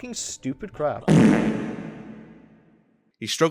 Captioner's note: fart sound